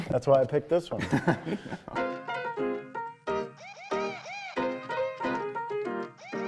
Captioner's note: upbeat music; all laugh